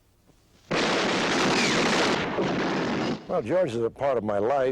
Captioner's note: gunshots firing